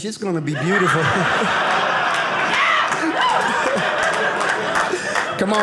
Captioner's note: audience laughing